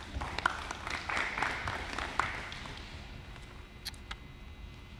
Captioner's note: applause